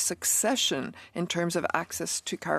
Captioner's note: speaking in French